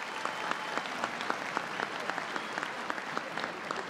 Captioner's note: applause